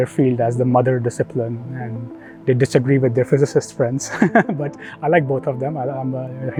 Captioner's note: laugh